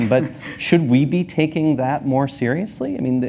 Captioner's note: laughs